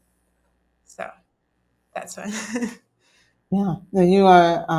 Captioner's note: laughs softly